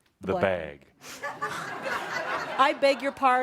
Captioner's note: laughter